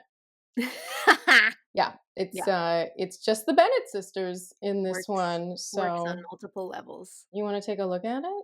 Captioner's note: laughter